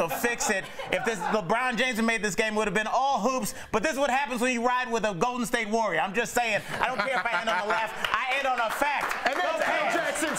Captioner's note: laughter